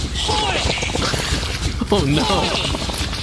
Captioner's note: vomiting eggs and flapping desperately